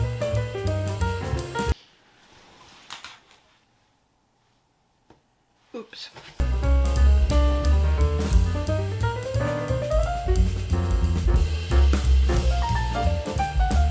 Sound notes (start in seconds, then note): 2.2 clothes flop